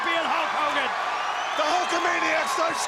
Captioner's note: crowd cheering